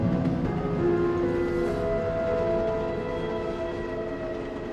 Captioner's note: train rumbling; uneasy music